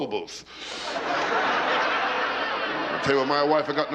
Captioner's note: laughter